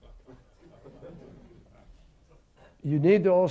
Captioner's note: laughter